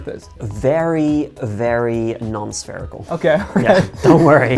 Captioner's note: laughing